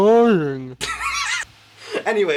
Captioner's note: laughter